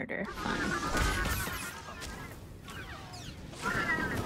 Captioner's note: gunshots